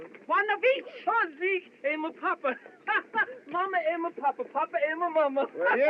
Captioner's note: laughs